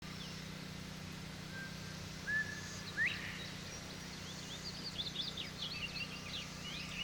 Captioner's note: birds chirping